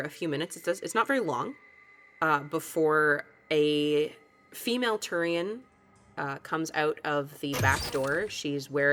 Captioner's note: door slides open